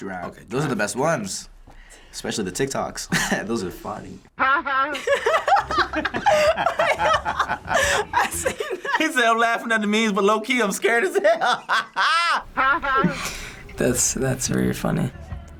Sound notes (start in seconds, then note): 4.4 both laugh; 4.4 chuckles; 11.0 laughs